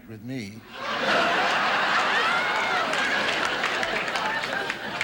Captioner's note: audience laughing